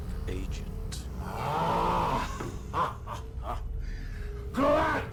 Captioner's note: laughs